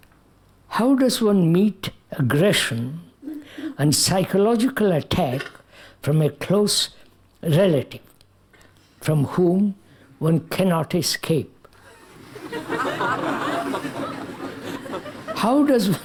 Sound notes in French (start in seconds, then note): 14.4 Rires